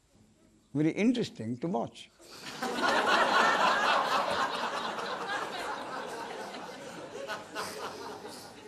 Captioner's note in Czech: smích